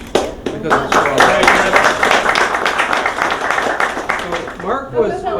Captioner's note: applause